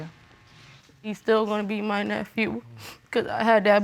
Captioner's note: sniffling